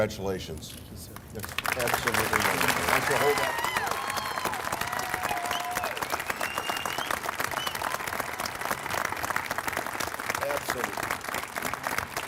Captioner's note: applause